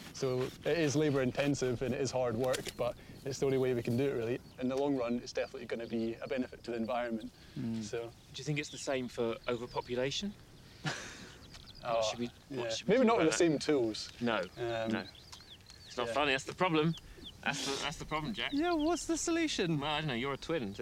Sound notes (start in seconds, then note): 10.7 laughing